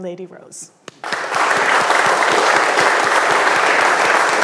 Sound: audience clapping

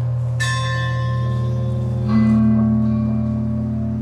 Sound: ringing bells

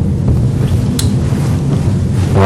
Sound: Ester's tongue clicks

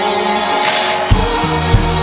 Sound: melodic chant; breaking sound; melodic chant

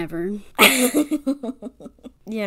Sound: laughs

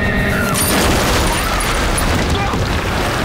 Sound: grunting

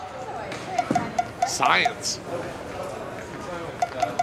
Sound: empty tapping

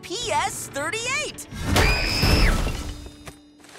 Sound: screaming, thudding

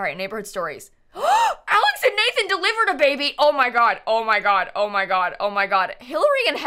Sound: gasps

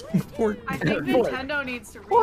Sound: laugh

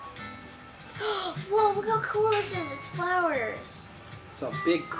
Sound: gasps

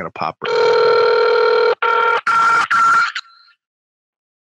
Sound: phone rings

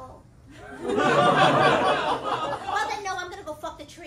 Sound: laughter

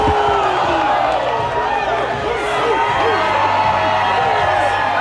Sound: punching; crowd cheering

